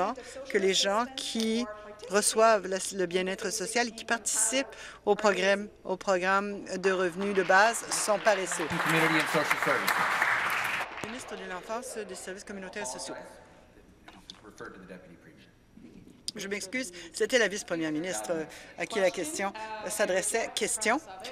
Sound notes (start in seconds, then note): 9.0 applause